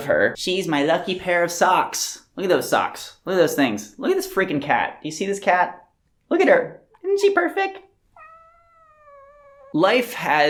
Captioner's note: long meow